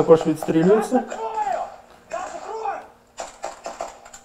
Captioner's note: voices